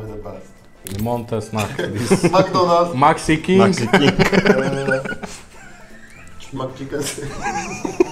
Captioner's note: laughing